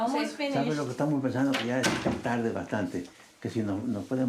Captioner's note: Spanish